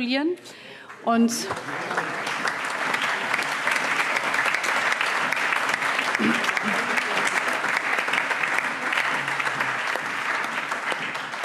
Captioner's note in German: Allgemeiner Beifall